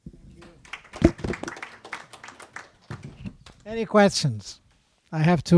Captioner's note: clapping